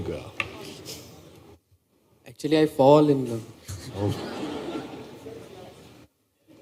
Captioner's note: laughter